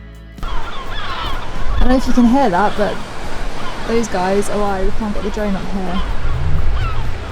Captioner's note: seagulls calling